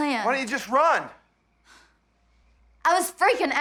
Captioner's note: sighs